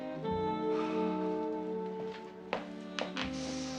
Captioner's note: Menghembuskan napas